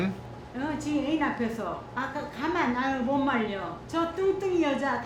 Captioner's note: Mrs. Chong speaking in Korean